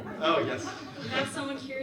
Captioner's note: audience laughs